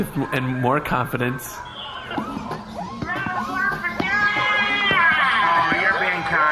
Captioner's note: cheering